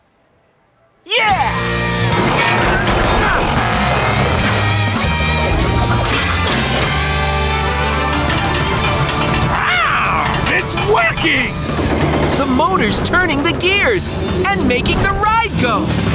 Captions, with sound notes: Yeah! [metal clanking] [gears moving] Rawr! It's working. The motor's turning the gears and making the ride go.